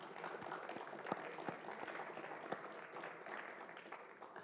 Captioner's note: applause